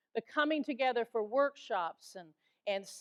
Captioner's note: none